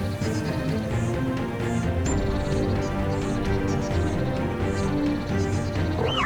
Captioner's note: birds chirping